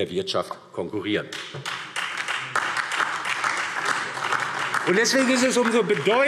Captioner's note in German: Beifall DIE LINKE, SPD und vereinzelt Freie Demokraten